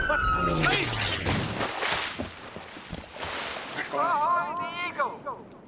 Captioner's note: booming and whistling; splashing